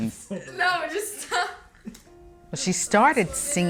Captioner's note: laughs